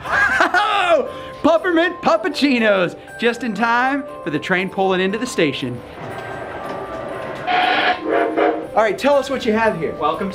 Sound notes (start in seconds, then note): 7.4 train honks